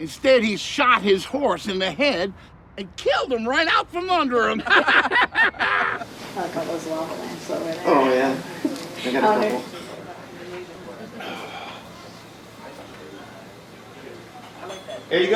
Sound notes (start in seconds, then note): 4.4 everyone laughing; 7.1 people chattering